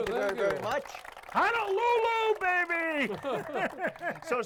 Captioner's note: everyone laughs